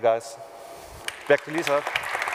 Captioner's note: applause